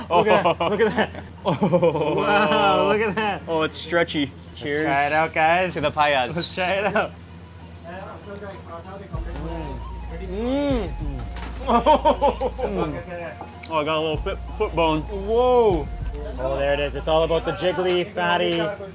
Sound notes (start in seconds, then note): 8.6 eating